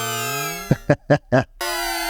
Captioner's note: laughs